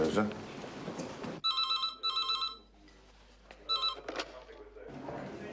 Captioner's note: phone ringing